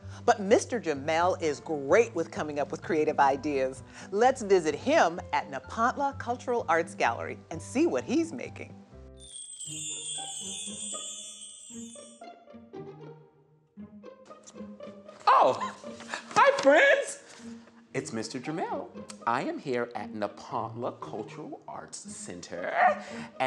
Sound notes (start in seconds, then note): 9.2 magical chime; 13.8 cheerful music